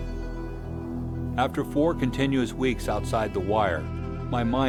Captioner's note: voiceover